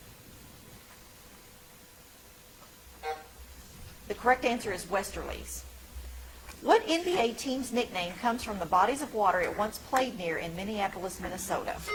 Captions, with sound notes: (timer buzzing) The correct answer is Westerlies. What NBA team's nickname comes from the bodies of water it once played near in Minneapolis, Minnesota?